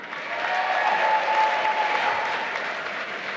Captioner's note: applause